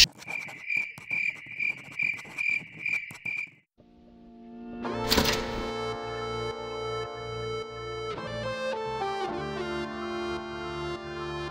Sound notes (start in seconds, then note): 0.0 pens scratching on paper with awkward cricket sounds; 5.0 door opens